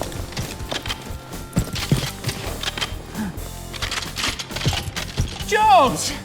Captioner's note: rifles cocking